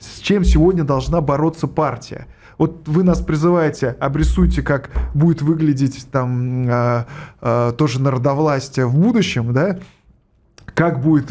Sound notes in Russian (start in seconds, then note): none